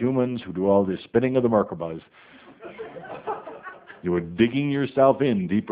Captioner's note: some laughter